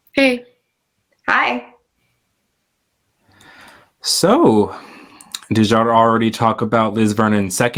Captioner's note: sighs